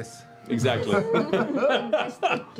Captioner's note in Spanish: ríe